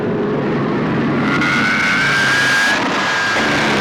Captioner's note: zooming